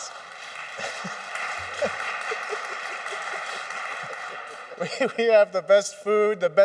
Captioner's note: applause